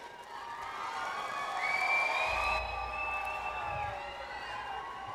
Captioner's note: audience applauds